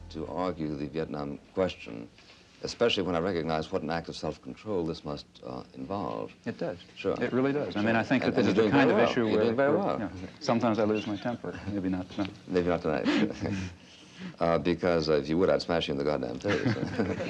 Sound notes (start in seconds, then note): 13.0 chuckling; 16.5 audience laughing